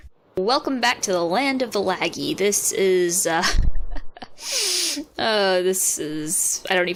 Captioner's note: breathing laugh thing